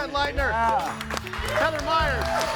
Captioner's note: audience applauding